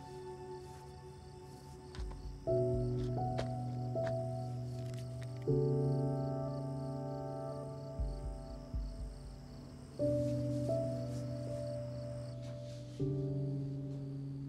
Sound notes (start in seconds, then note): 6.5 crickets chirping